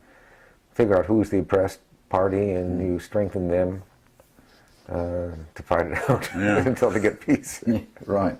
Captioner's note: laugh